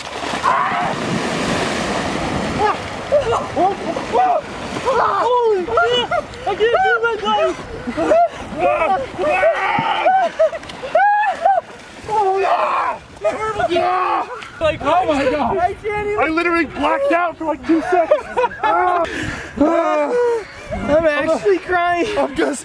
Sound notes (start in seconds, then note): 0.4 gasping and screaming; 9.2 screaming; 17.6 laughing